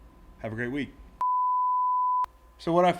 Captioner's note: beep